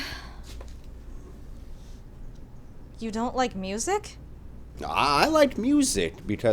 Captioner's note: none